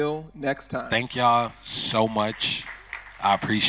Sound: crowd clapping

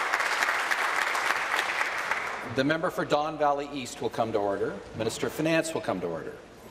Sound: applause

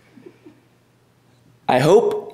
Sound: giggling

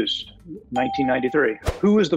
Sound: ding

